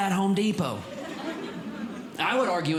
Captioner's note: audience Laughing